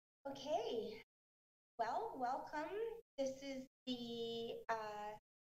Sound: none

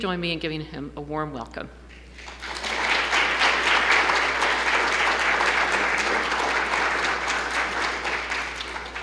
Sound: clapping

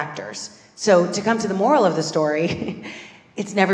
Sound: laugh

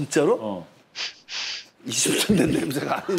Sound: sniffing

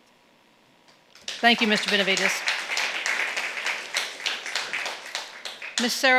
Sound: audience clapping

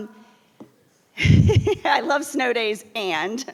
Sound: person laughing

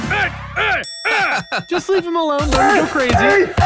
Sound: laughs

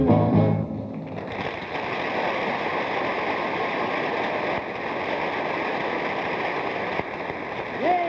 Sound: audience applauds

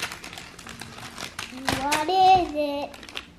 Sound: paper ripping

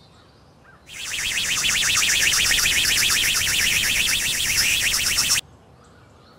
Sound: rocket motor

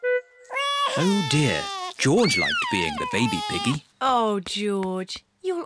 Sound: bawls

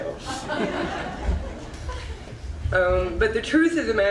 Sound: audience laughs

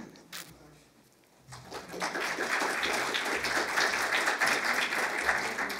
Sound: applause

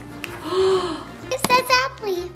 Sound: mom gasps

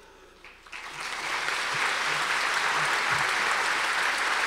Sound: audience applause

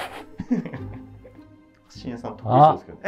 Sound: laughing

